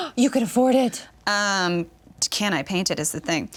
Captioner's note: gasps